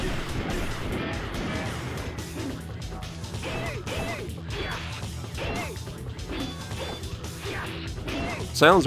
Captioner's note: game sounds